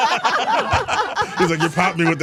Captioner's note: all laughing